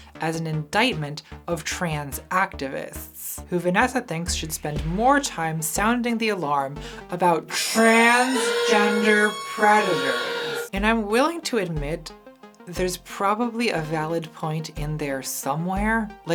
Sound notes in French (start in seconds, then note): 7.5 sirène/alarme